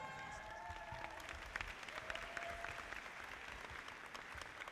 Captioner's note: audience applauding